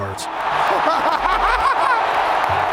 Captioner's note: hahahahahahaha